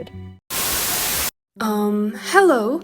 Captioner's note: Static